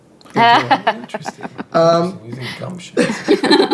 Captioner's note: laughing